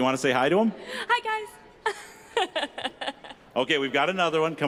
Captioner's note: laughing